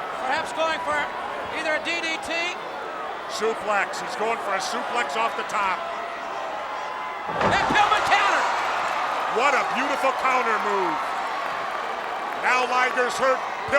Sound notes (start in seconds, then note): 7.3 body thudding; 8.9 crowd cheering